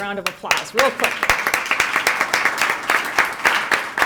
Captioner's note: applause